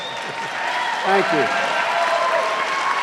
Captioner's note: cheers and applause